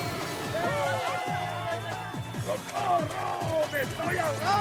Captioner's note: crowd cheering